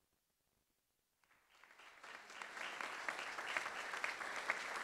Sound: audience applauds

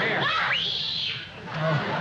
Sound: linda screams

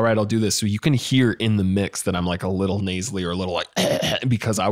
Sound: coughs

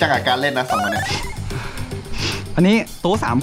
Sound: sighs

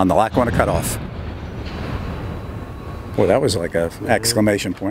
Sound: loud sound of slack on the train

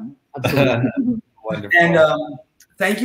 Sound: laughs

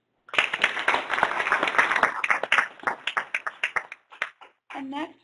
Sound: applause

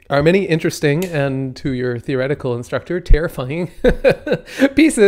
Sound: laughs

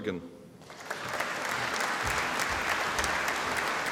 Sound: audience applauding

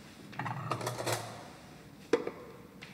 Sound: crockery, cutlery rattle

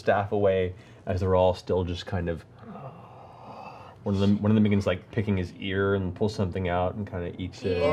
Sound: gasping

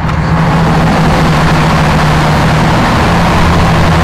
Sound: boat roars

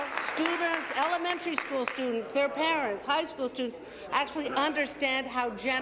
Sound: applause

